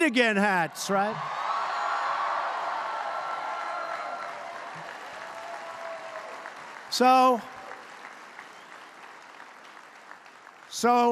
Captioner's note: applause